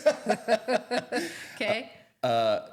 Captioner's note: both laughing